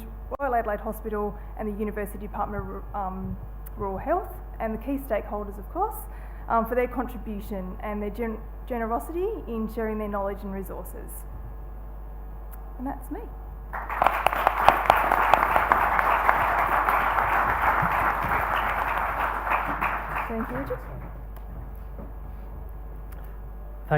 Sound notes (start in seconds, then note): 13.7 applause; 21.1 applause ends